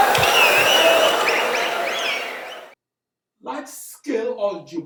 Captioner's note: wild applause and cheering for 22 seconds